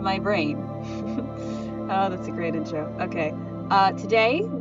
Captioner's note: laughs